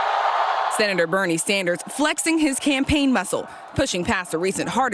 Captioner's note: cheers